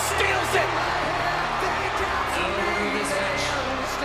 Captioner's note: applause